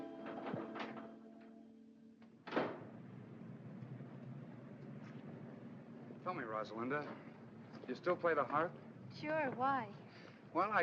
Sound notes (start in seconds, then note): 0.1 door opens; 2.4 door closes